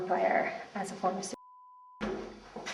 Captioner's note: beeping